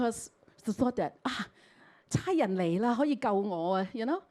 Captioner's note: Cantonese